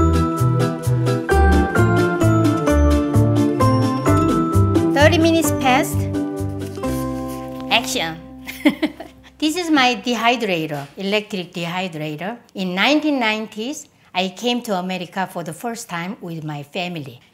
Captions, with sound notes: 30 minutes passed. Action! (laughs) This is my dehydrator. Electric dehydrator. In the 1990s I came to America for the first time with my family.